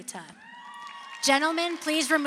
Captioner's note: crowd cheers